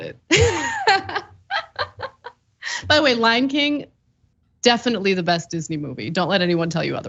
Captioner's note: laugh